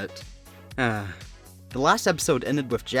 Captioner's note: sigh